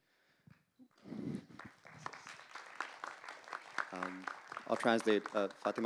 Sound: applause

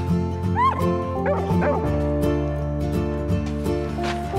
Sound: dogs bark

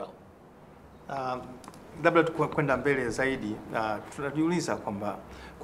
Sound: speaking in swahili

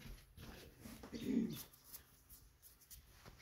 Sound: none

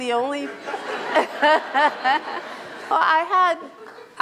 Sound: Chirlane and audience laugh

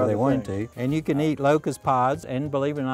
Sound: none

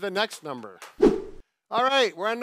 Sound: swift whooshing

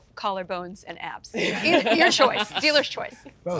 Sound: all laugh

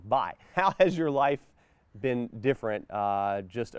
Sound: chuckles

